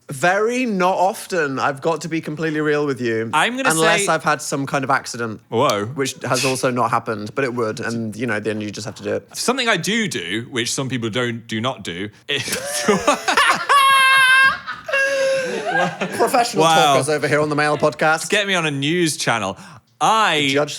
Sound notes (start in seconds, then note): 12.4 both laughing